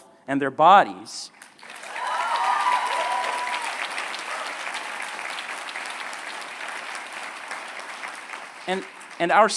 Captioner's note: applause